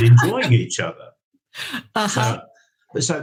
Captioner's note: laughs